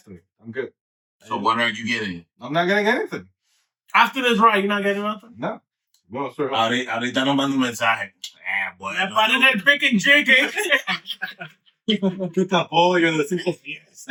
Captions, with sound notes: I'm good. So what are you getting? I'm not getting anything. After this ride, you're not getting anything? (Speaking In Foreign Language) (Laughing) Oh, you're the simple fiends.